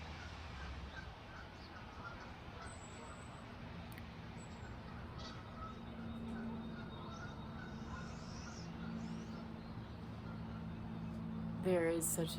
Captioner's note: traffic